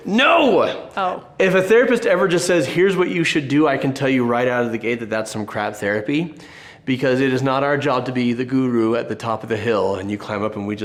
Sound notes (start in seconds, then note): none